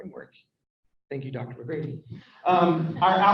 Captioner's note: people laugh